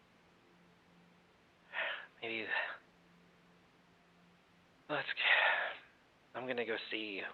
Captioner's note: sighs